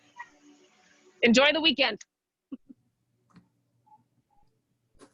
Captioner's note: chuckles